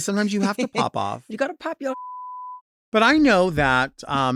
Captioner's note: beep